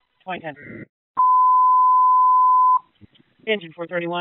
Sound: annoying Long Beep for Manual Dispatch

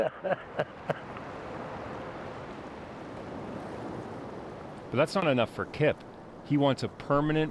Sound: laughter

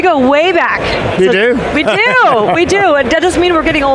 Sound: laughs

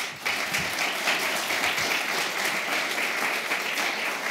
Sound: applause

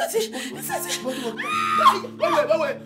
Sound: scream

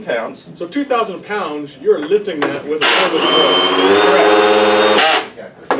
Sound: drill noises

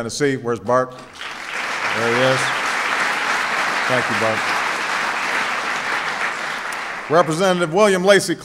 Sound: applause

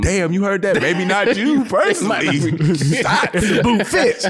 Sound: laughs

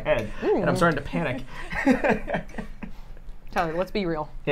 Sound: laughing

